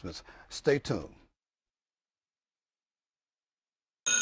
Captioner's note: bell ringing